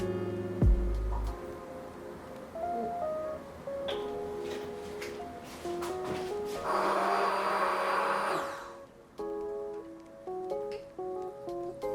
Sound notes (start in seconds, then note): 6.6 mixer whirs